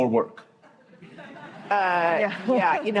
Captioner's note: laughter